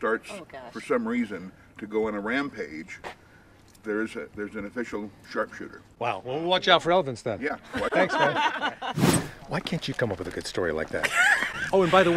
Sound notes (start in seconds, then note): 7.6 group laughs; 11.0 laughs